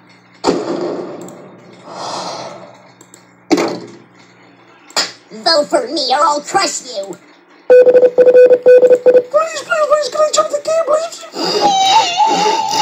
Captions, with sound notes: (Explodes) (deep breaths) vote for me or i'll crush you! -.--..--..-..--..- PLEASE PLEASE PLEASE CAN I JOIN THE GAME PLEASE